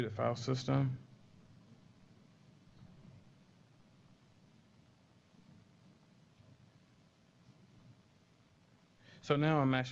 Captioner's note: pause